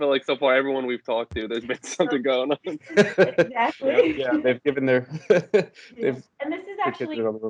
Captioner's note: laughter